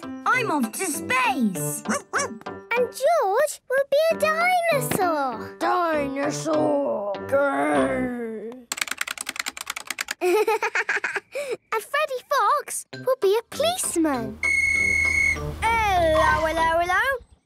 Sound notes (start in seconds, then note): 8.6 keyboard clicking; 14.4 whistle blowing